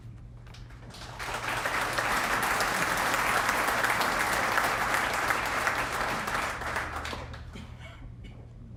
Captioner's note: applause